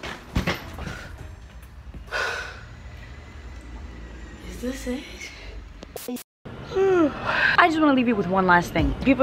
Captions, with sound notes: (sighs) Is this it? I just wanna leave you with one last thing.